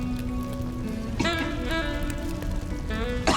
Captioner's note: coughs